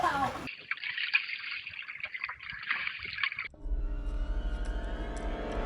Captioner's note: laughs; water burbling; suspenseful music